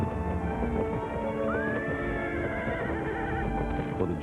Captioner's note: horse Whinnying